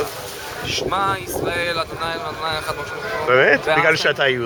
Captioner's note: in Hebrew